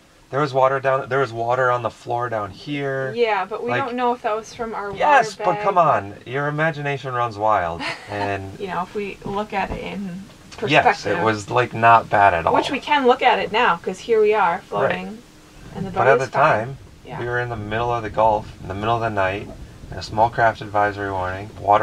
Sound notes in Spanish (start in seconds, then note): 7.8 risas